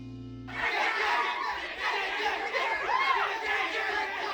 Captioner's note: screams